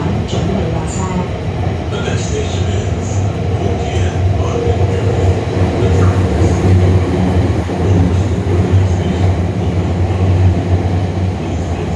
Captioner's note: Regular English announcement, no special announcement